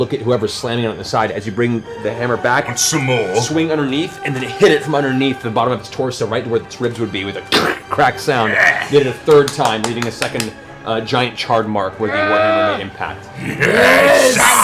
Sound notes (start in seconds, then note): 7.6 crunch